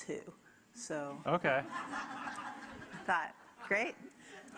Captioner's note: audience laughing